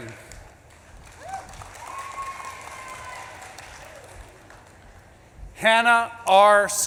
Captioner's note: audience claps and cheers